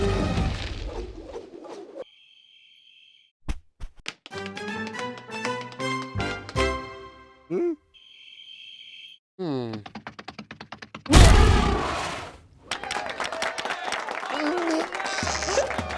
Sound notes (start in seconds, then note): 4.0 tapping feet; 11.0 growl, stomp; 12.6 cheers and applause; 13.7 whimper; 14.3 groan